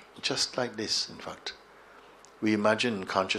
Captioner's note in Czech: lusknutí